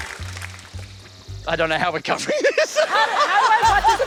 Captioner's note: laughs